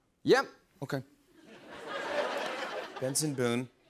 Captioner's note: laughter